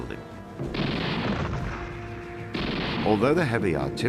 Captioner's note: guns blasting